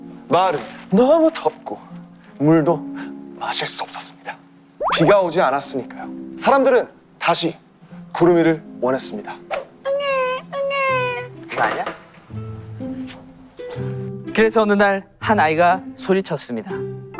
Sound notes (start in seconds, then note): 9.9 crying